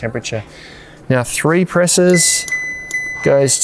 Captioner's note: fridge beeps